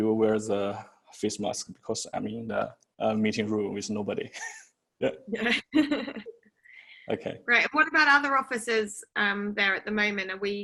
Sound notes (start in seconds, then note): 5.4 chuckles